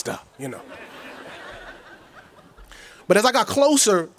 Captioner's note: audience chuckles